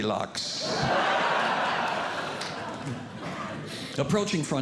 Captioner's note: audience Laughing